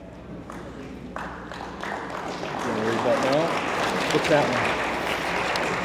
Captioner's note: attendees applauding